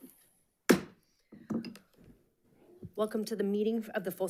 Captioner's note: gavel bangs